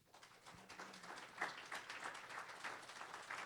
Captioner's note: applause